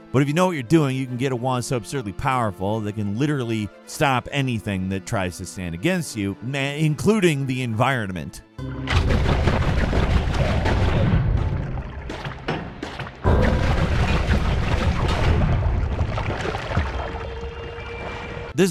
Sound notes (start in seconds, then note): 8.7 explosions booming; 8.7 wand blasting; 13.5 gunge splashing